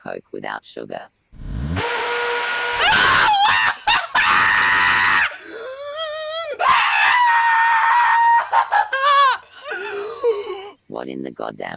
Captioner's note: Pidgy transforming back, Guard 1 screaming loudly